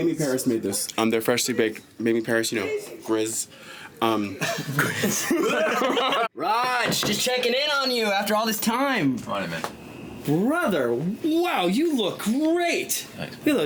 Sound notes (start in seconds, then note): 4.4 people laughing